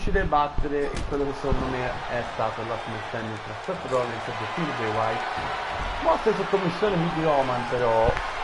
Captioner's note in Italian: Applauso